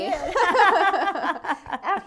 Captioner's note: laughter